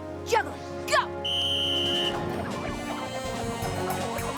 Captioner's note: whistle blows